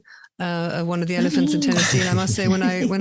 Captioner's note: laugh